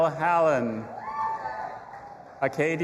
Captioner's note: audience applauding and cheering